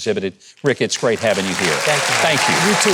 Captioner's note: audience applauding